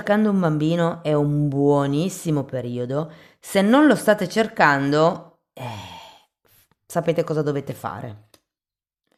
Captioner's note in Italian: sospiri